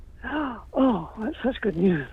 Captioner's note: gasps